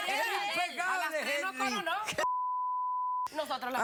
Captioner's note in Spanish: Bip